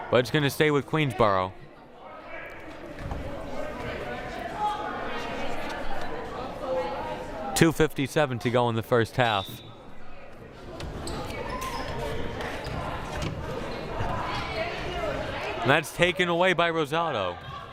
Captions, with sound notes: But it's going to stay with Queensborough. (crowd murmuring) 2:57 to go in the first half. (crowd murmuring) That's taken away by Rosado.